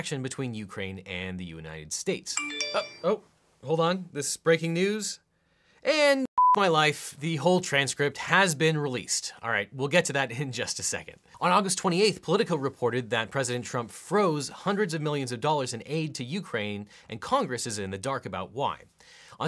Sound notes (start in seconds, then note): 2.4 phone pinging; 6.4 beeping